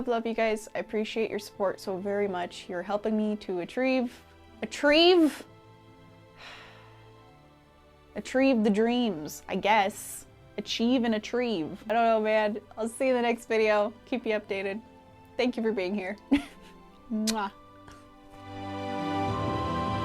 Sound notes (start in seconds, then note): 17.2 mwah